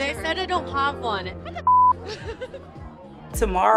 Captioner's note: laughs